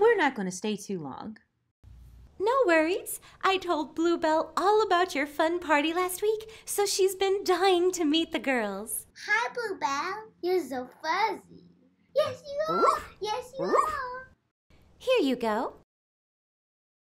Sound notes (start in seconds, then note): 12.6 dog barks